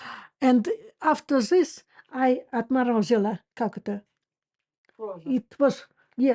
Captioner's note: Russian